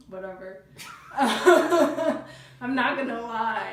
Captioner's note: laughing